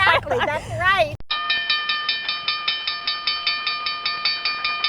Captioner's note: loud chiming bells